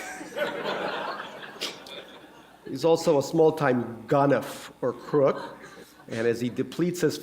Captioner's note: laughter